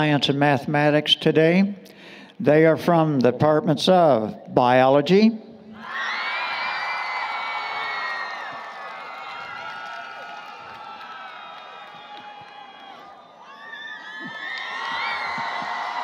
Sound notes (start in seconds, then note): 5.9 applause, Cheering